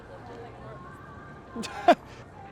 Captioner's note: Caufield laughs